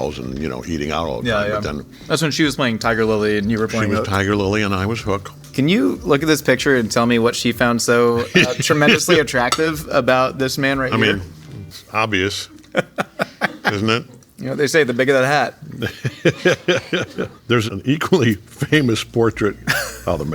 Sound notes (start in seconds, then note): 8.2 J.K. laughing; 12.5 all laughing; 15.6 crew and J.K. laughing